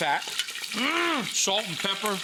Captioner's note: oil sizzling